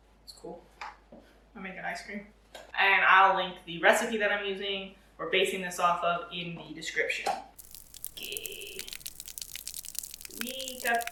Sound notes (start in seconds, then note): 7.6 liquid pouring sound effect